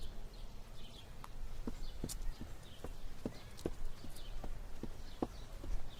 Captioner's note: birds chirping